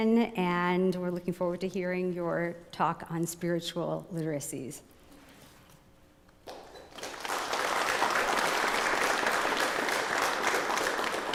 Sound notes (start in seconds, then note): 4.7 applause